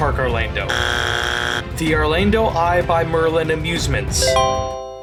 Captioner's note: buzzer